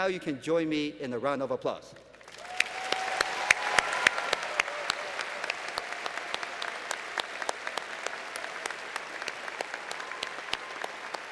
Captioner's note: applause